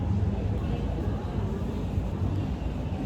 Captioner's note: sounds of the train station